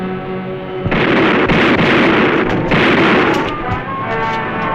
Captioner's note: gunfire